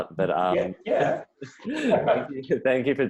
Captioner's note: both laughing